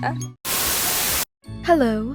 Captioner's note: Static